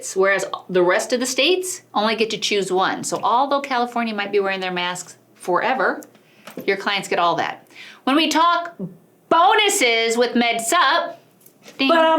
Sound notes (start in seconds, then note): none